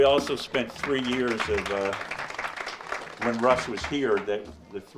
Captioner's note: audience applauds